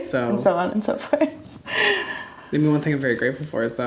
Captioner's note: laughs